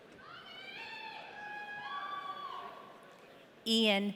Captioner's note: audience cheering